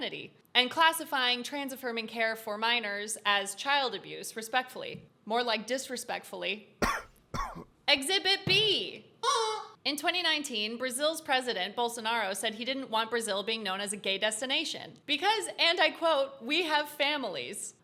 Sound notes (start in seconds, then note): 6.8 cough